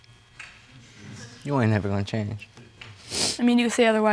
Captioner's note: sniffs